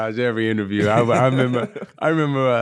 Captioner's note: laughing